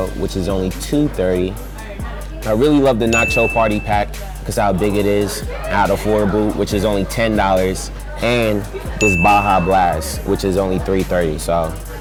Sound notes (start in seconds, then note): 3.1 ding; 9.0 ding